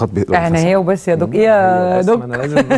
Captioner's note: sarcasm!